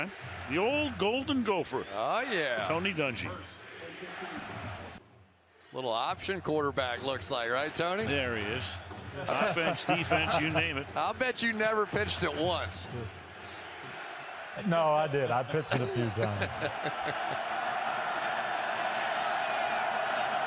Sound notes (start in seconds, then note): 10.9 cheering